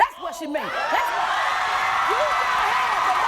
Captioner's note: crowd cheering